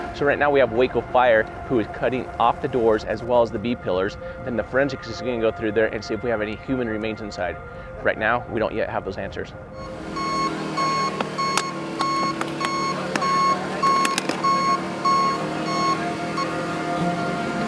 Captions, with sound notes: - So right now we have Waco Fire who is cutting off the doors, as well as the B pillars. Then the forensics is gonna go through there and see if we have any human remains inside. Right now, we don't yet have those answers. (truck backup whining) (machinery crunching)